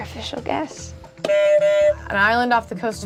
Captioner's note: buzzer honks